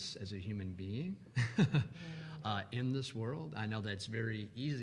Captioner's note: chuckles